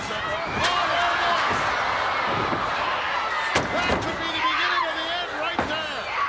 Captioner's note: applause